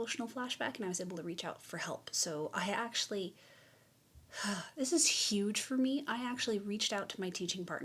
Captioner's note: sigh